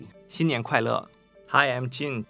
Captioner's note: speaking Chinese